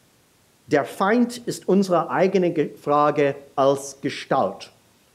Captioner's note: speaking in a foreign language